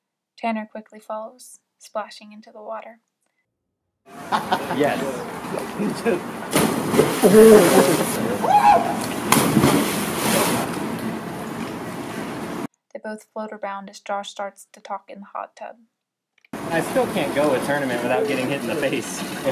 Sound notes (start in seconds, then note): 6.4 splash